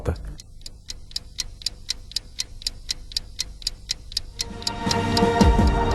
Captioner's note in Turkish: Tik-Tak